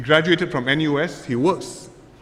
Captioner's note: none